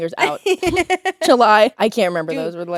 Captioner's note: Courtney laughing